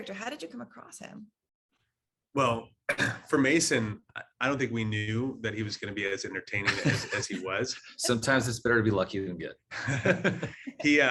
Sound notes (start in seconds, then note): 6.4 laughing; 9.7 laughing